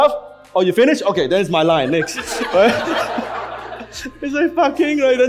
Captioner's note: audience laughs